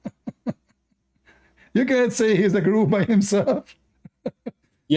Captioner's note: Ketawa